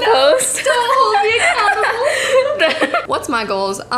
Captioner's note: laughing